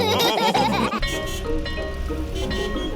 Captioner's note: car horns beeping